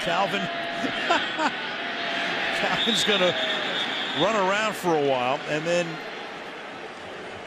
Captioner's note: laughs